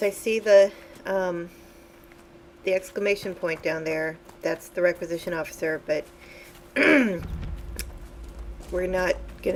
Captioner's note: clearing throat